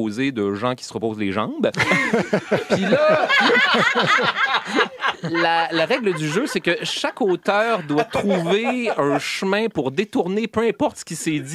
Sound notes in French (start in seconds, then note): 1.7 rires